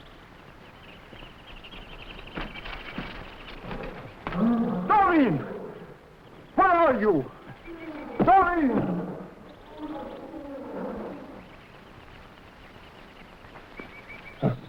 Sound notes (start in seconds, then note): 1.0 footsteps rustling; 3.5 jungle animals groaning; 9.9 animals chattering; 9.9 jungle animals groaning